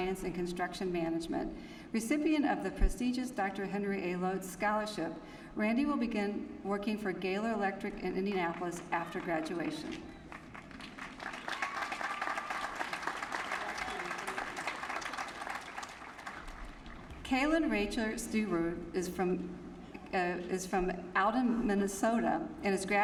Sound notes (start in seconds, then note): 10.2 applause